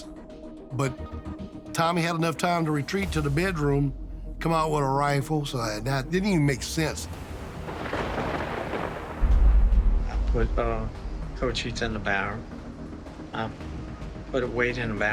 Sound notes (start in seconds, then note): 6.1 thunder cracks